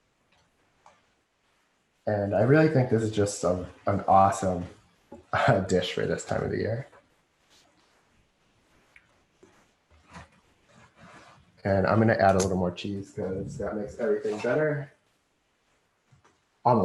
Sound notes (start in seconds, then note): 5.8 silence